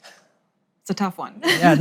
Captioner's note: laughs